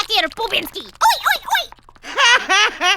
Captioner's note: laughs